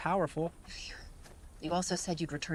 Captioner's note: sighs